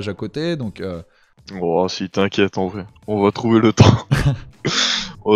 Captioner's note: laugh